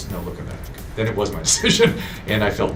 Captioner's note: laughing